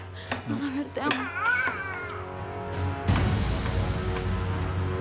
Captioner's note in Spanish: Balbuceos del niño